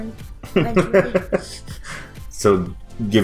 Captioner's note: dad chuckles